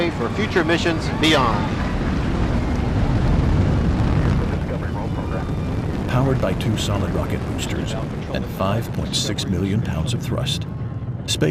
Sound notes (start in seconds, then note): 2.2 rocket engines firing